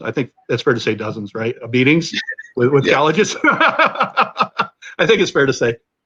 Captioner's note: laughter